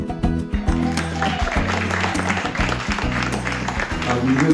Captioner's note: applause